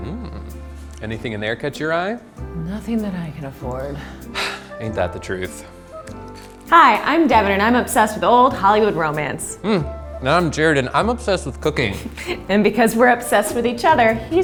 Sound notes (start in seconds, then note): 4.0 sighing